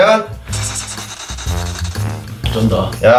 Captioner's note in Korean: 연필 효과음